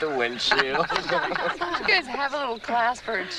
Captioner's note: teenagers laughing